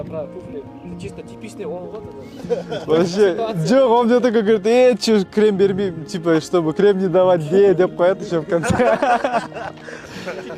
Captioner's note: laugh